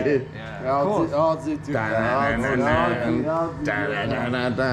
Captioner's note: men speaking in Italian